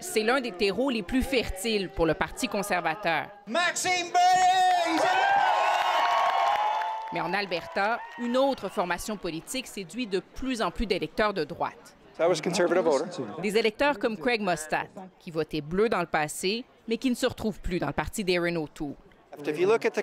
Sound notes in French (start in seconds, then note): 4.6 applaudissements